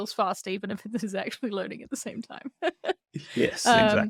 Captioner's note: laughs